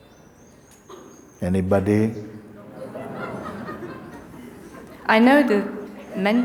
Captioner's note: voices in audience